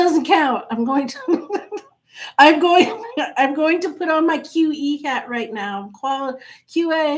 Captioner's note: chuckles